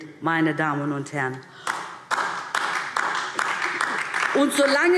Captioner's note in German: Beifall DIE LINKE